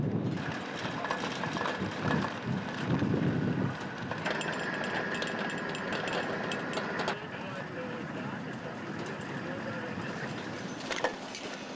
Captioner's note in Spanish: sonido automotor